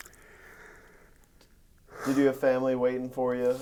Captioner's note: sighs